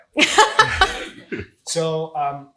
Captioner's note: laughs